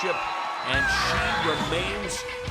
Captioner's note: bell ringing